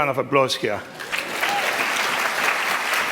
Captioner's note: applause